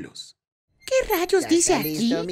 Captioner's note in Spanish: Sonido silla de ruedas